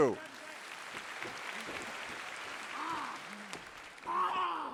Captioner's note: audience applauding